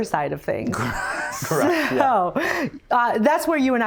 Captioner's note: laughing